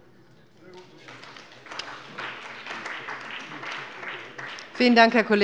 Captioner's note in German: Beifall bei dem BÜNDNIS 90/DIE GRÜNEN und der CDU